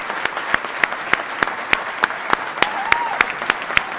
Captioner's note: applause